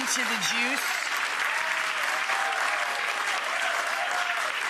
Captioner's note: audience applauding